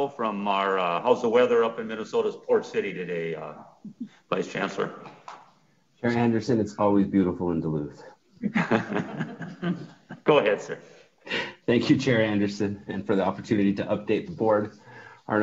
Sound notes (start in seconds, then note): 8.4 several laughing